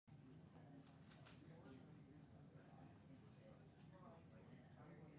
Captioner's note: people chatting amongst themselves